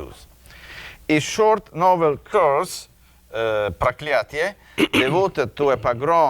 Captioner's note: speaking in a foreign language